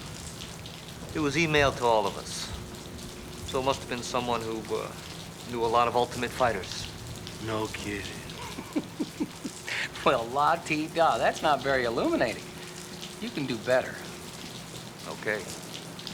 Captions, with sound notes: It was e-mailed to all of us. So it must've been someone who, uh, knew a lot of ultimate fighters. No kidding. (laughs) Well, la-di-da, that's not very illuminating. You can do better. Okay.